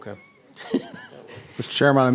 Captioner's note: laughing